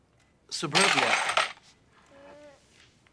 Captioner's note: clattering